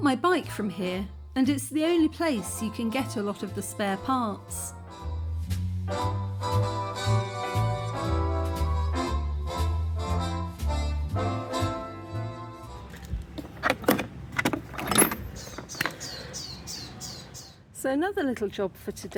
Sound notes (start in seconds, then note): 6.1 smooth jazz music; 12.9 case clunking and jangling